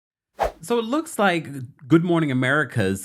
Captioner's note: air whooshing